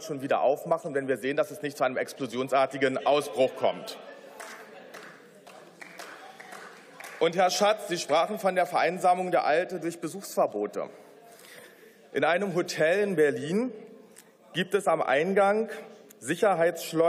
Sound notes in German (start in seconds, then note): 6.7 Beifall